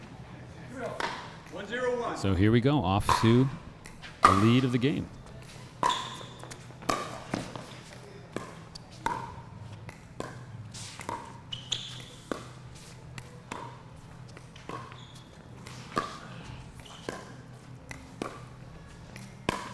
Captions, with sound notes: So here we go, off to a lead of the game. (ball being hit) (shoes squeaking)